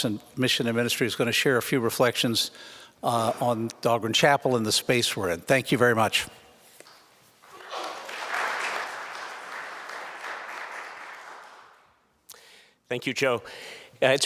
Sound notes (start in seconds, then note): 7.4 audience applauding